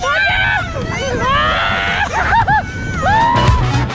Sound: cheers; upbeat music

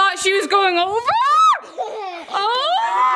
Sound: child laughing; person screaming

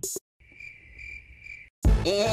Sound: cricket sounds

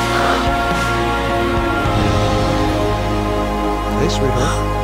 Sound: gasps

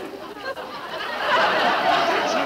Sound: audience laughing

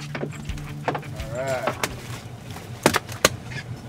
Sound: fish thrashing

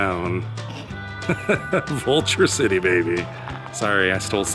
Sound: laughs

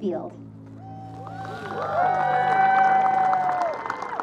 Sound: crowd cheers

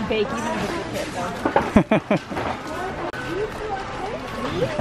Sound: laughing

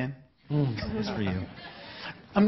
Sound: laughing

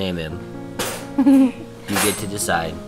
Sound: laughter

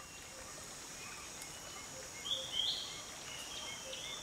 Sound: birds chirping

